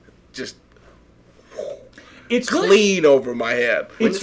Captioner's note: whooshing